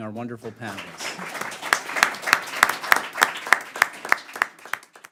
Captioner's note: applause